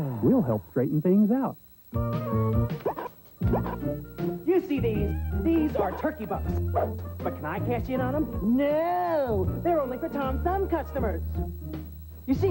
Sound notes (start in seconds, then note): 8.3 extremely sarcastic